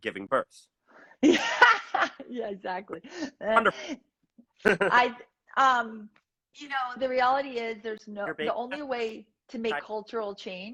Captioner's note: laughs